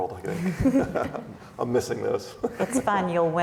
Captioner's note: laughs